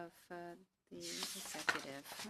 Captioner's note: speaking French